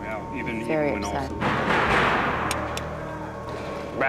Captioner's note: knock on door